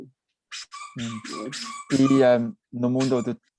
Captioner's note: toy squeaking